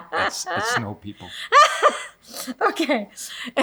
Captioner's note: laughs